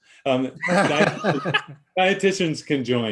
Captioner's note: laughing